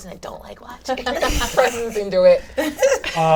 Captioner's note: laughs